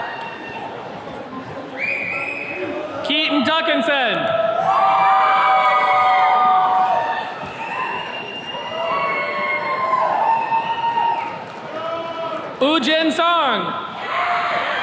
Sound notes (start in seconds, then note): 5.6 attendees cheering; 13.8 attendees cheers and claps